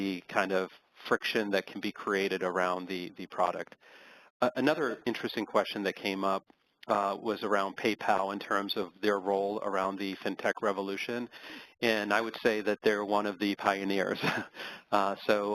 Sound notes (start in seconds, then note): 14.2 laugh